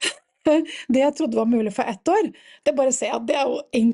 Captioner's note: laughs